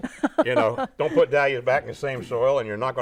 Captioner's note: laughing